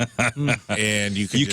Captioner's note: laughing